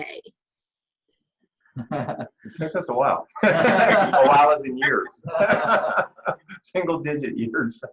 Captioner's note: laughter